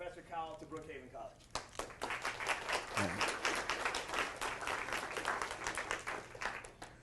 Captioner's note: clapping